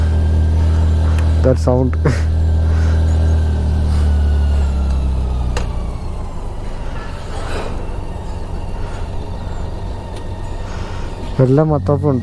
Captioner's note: engine sound